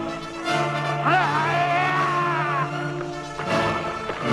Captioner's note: raider yells